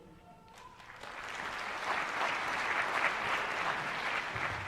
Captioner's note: applause